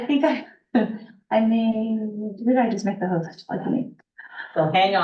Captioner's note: laughs; muffled voice